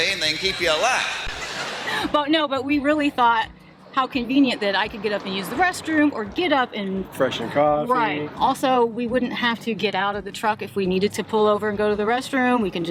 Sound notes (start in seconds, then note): 0.3 chuckles